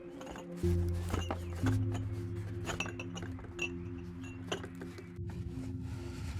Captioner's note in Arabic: موسيقى منخفضة التشويق; زقزقة الطيور